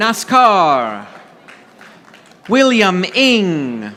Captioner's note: audience applauding